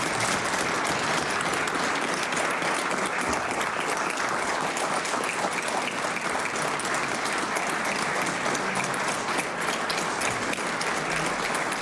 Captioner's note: applause